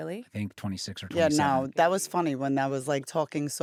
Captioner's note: none